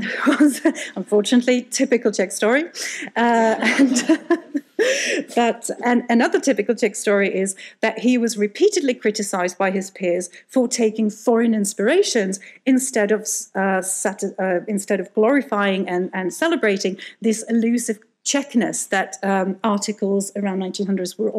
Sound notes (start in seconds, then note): 3.1 laughing; 3.5 audience laughing